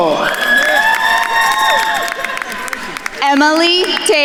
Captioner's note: attendees cheering and applauding